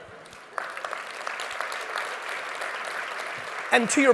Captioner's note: audience applauds